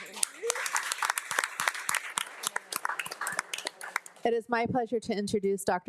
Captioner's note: board of trustees and attendees applauding